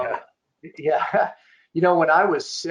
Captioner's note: chuckling